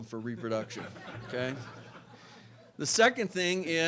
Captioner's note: laughter